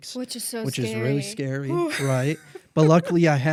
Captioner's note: laughs